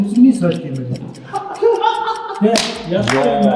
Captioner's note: other laughs